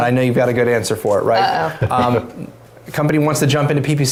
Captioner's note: laughs